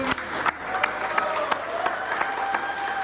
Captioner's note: cheering